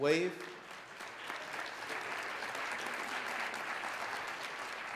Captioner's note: audience applauds